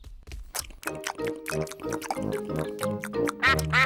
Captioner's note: all munching